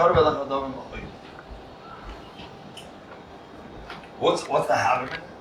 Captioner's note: Hebrew